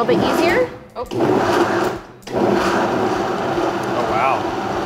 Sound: blender blends

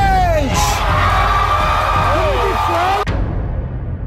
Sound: audience cheers

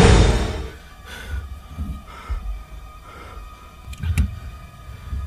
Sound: Omari pants

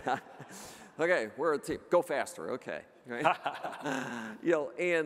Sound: laughing

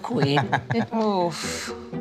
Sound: laughs

